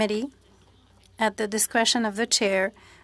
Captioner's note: speaking French